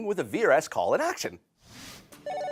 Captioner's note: phone ringing